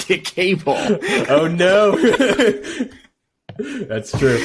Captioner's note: laughing